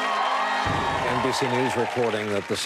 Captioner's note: cheering and applause